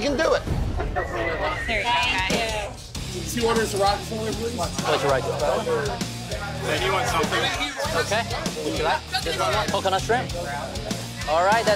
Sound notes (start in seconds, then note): 4.1 loud chatter